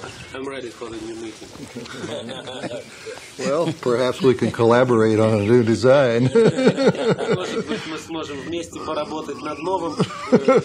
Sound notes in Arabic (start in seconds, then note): 7.1 الصوت المنطوق بالروسية